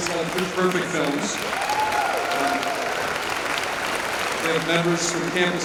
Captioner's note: cheers and applause